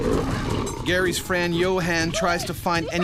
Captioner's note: growling; voiceover